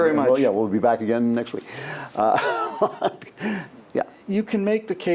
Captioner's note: laughs